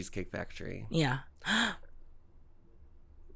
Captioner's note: gasp